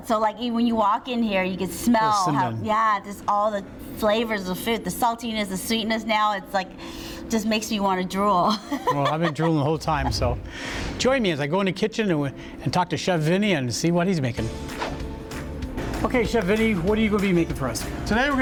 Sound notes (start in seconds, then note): 8.5 laughs; 14.4 upbeat music